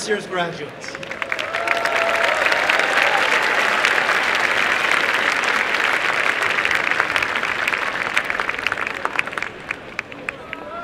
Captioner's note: applause and cheering